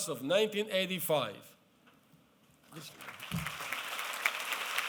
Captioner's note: applause